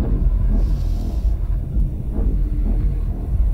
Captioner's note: Sniffs